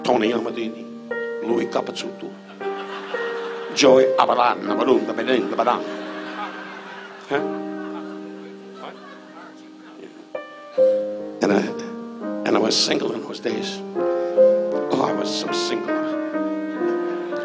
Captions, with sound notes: Tony Amattini, Louis Cuppacutto, Joey Aba... (Don muttering) (audience laughs) Huh? What? And I was single in those days. Oh, I was so single.